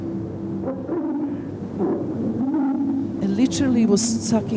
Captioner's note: breathing sound